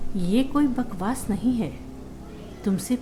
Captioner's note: none